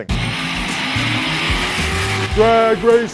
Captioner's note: car engines rev